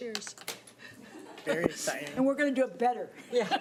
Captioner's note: laughing